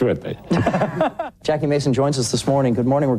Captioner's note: laughs